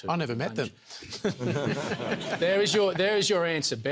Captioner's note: laughter; chuckles